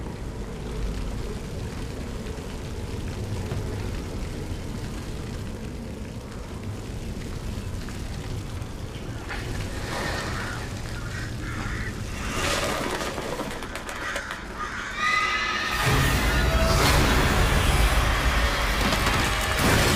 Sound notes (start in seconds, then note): 0.6 fire burning; 10.1 birds flapping; 15.8 loud bang